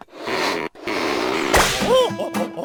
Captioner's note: balloon squeaking; balloon pops; gorilla hooting